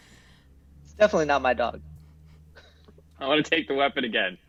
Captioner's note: giggles